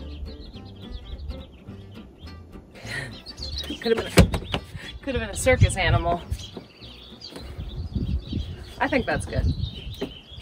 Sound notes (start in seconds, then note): 0.0 jaunty music; 6.8 birds chirping